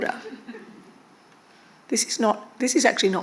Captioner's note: attendees chuckling